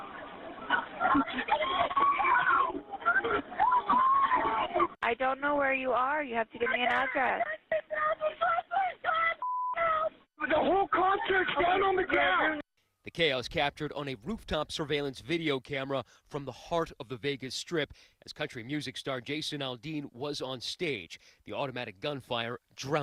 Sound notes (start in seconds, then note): 7.4 screaming